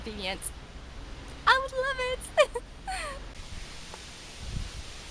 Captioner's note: laughs